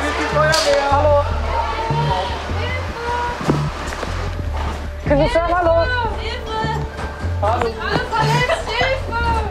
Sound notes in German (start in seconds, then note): 2.6 Hilferufe